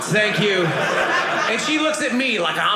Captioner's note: audience laughing